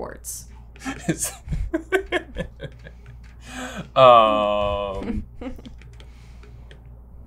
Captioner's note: giggles